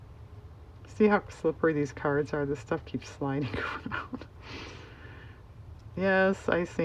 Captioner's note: laughs